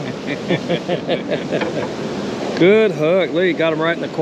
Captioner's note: chuckling